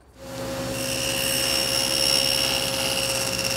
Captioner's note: saw whirring